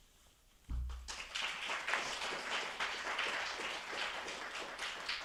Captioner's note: attendees applauding